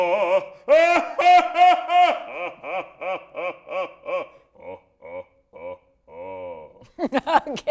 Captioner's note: laughing at different pitches